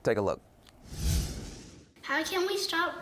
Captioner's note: air whooshing